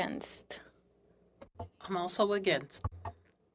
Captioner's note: speaking in French